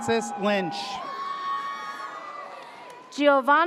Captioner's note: audience cheers